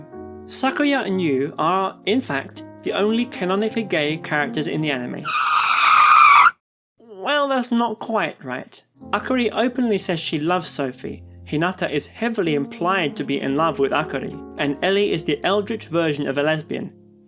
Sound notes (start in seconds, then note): 5.2 car tires screeching